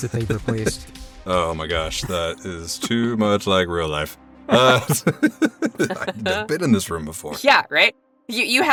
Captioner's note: EVERYONE chuckles